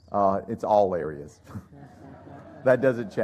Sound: laughter

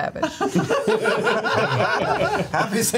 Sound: all laugh

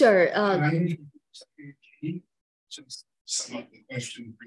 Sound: speaking faintly

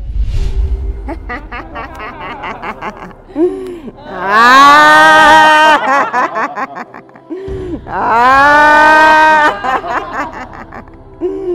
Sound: laughter

